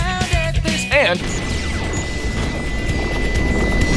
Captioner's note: long painful tone